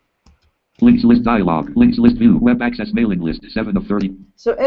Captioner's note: JAWS speaking